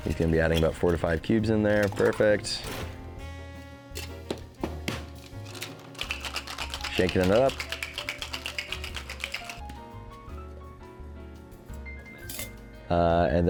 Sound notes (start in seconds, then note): 5.2 ice clattering; 5.4 shaker clacking; 10.1 classy music